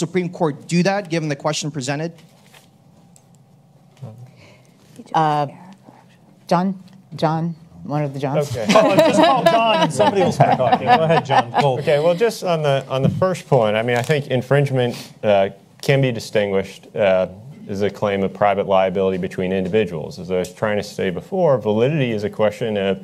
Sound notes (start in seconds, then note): 8.7 panelists laugh